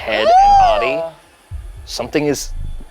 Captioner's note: squeals